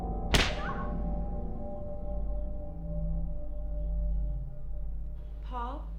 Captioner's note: eerie music intensifies; object snaps; Rose screams